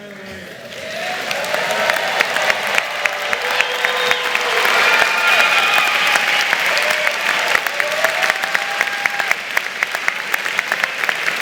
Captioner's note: cheers and applause